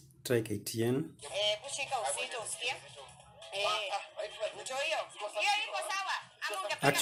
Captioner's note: TV sound